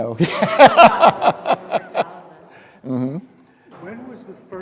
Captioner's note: speaker laughing